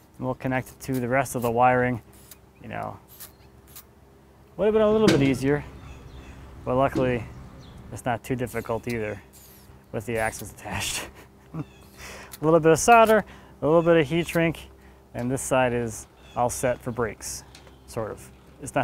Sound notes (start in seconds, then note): 10.7 laughs